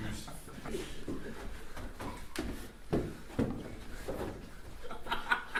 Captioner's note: laughter